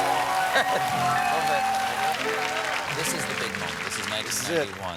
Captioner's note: applause